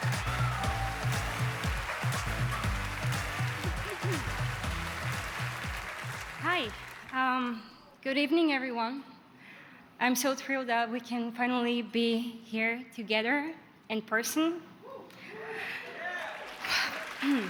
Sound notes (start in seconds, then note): 3.4 cheers and applause